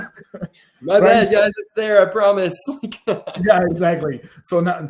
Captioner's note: laughs; laughs